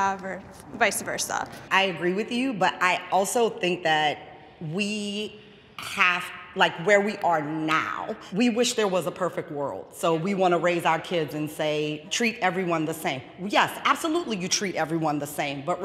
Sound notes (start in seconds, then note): none